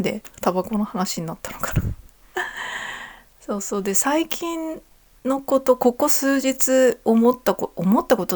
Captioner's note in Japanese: 息をのむ音